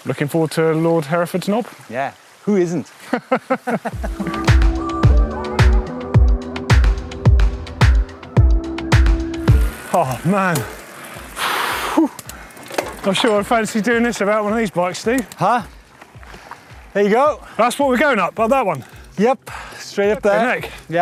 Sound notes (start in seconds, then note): 3.1 laughs; 3.9 electronic music